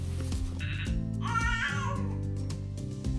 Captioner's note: baby sounds